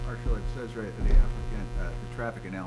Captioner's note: faintly speaking